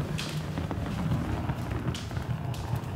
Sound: luggage rumbling

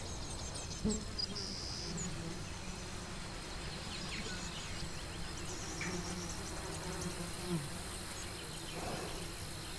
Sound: flies buzzing

